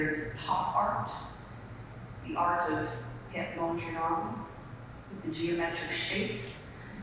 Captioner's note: speaking in foreign language